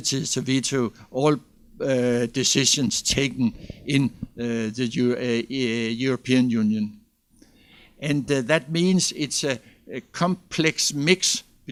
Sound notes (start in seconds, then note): none